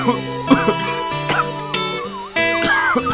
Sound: coughing

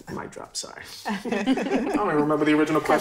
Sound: all laugh

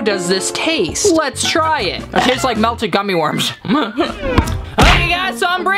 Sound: chuckles

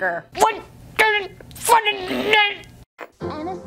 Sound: disgruntled Grunts

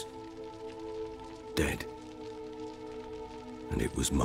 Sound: solemnly

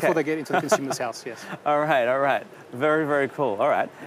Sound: laughter

